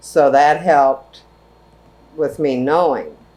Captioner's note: none